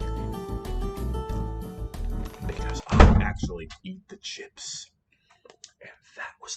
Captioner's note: slam; whispering